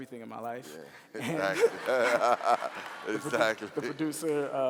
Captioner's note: laughing